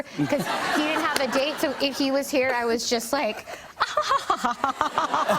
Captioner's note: laughs haughtily